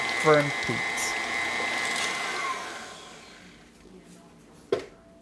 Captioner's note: mixer whirring